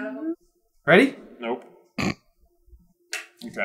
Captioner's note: snorts